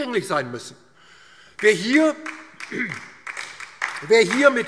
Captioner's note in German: Beifall DIE LINKE